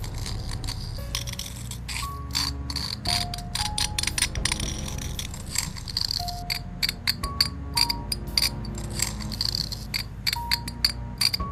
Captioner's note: scraping and grinding noises